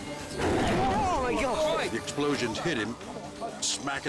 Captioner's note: flames whoosh; all shout